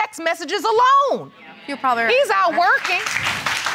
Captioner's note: applause